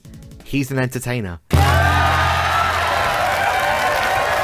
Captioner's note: cheering